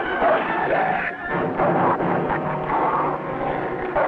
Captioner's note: none